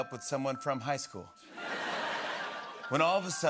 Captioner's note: laughter